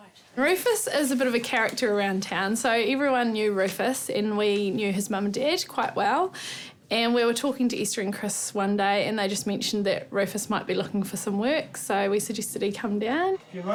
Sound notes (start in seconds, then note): none